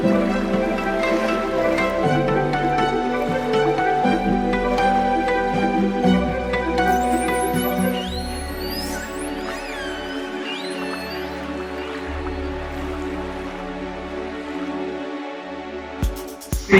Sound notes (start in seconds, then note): 7.3 whale sounds; 11.8 soft music